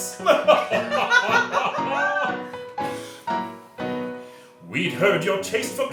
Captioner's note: laughing